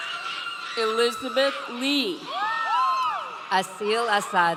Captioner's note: audience cheering